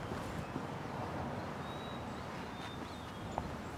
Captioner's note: birds singing